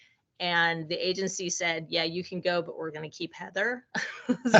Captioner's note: laughing